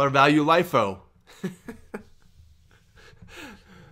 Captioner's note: laughs